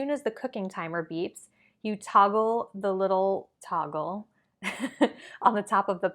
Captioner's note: giggles